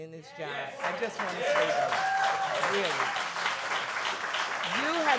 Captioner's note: applause